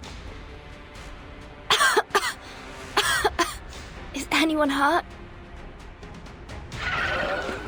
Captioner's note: cough